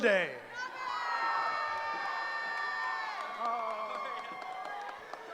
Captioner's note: cheering